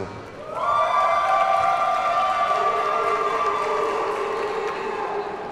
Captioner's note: audience cheers and applauds